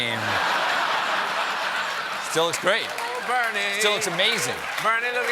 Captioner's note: laughter